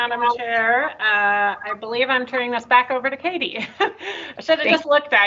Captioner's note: laughs